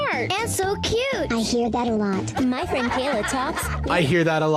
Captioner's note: children laughing